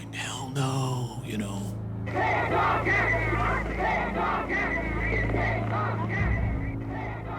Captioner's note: chanting